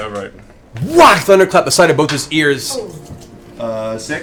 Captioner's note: whack